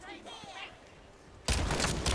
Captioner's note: gunshots